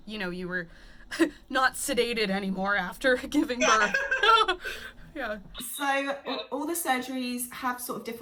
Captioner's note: laughs